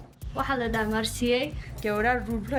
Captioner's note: translator speaking foreign language